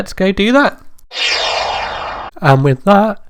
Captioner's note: swoosh Sound